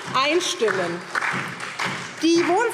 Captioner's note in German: Beifall SPD und vereinzelt DIE LINKE